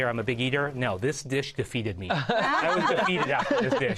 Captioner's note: laughter